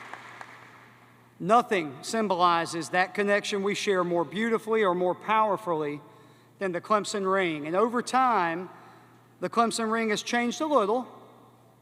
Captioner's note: applause